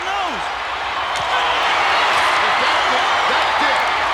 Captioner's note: crowd cheering